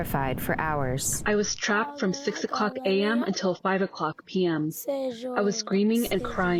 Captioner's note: through translator